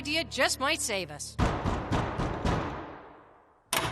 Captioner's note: knocking on door